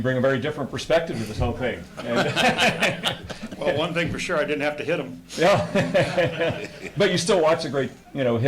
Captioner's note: laughter